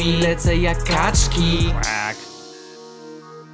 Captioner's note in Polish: quack